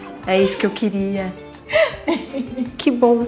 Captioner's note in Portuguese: risos